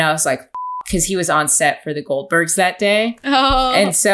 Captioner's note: beep